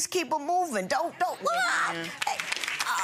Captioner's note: audience clapping; screaming